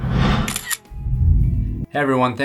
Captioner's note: click